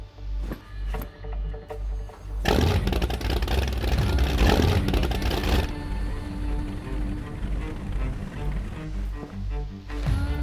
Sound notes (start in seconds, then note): 2.4 boat engine roaring; 5.5 tense suspenseful music